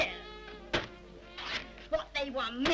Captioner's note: canvas tears